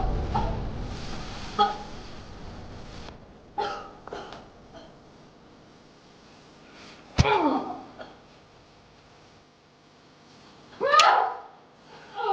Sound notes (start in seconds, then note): 0.0 tense music; 7.0 Gabriella grunting; 10.8 Gabriella screaming